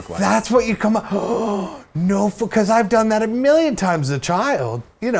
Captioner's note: gasp